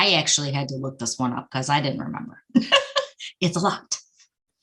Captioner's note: laughing